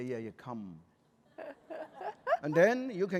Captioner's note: laughter